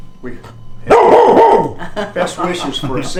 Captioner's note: dog barking